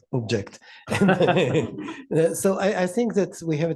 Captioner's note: laughter